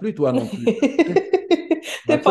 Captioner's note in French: Rires